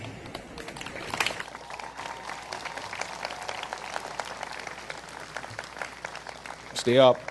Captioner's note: applause